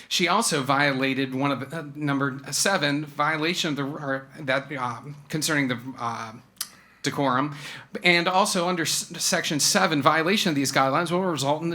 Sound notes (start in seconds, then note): none